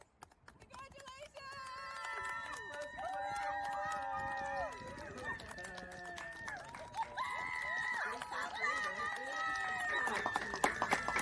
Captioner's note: clapping and cheering